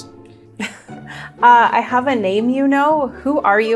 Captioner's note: laughs